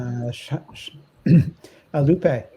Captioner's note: clears throat